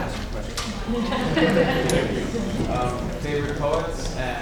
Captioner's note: laughing